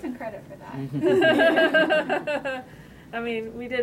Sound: laughter

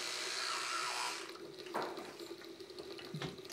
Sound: toothbrush stops

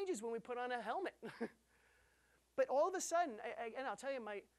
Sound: chuckling

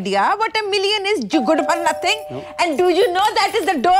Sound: door bell rings

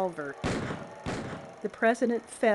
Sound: gunshot

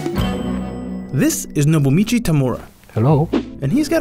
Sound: voiceover

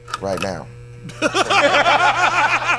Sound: laughter

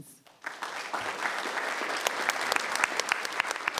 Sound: applause

